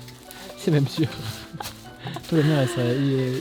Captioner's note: laughs